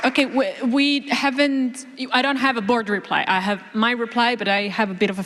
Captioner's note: applause